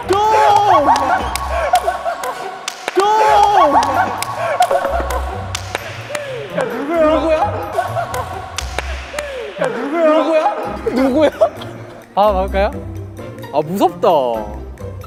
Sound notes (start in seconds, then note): 10.1 laughing